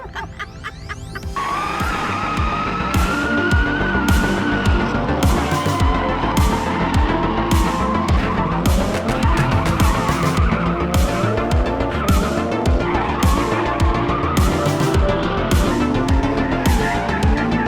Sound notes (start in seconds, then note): 0.0 laughing; 1.1 engine revving; 3.1 upbeat music